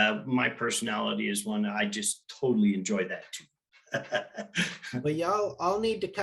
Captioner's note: laughing